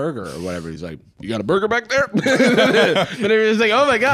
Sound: both laugh

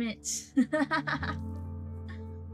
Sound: laughs

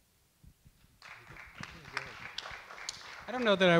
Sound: audience clap

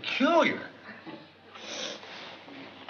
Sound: sniffs

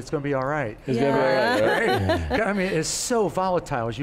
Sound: laughs

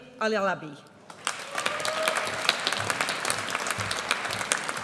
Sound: audience cheers

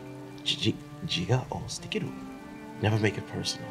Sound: speaking in foreign language

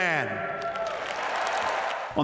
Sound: cheering and applause

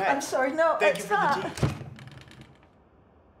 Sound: door slams shut

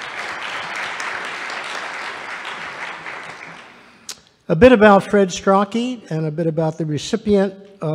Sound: applause

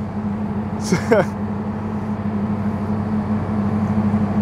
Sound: laughs

